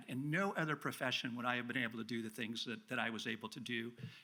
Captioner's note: none